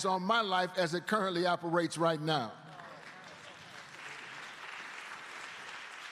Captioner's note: applause